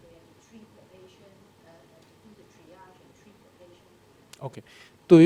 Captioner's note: woman speaking in background